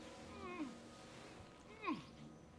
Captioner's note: Gordon groans